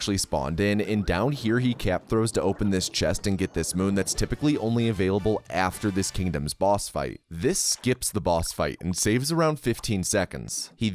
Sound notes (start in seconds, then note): none